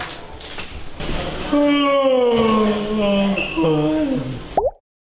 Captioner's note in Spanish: Yaaaawning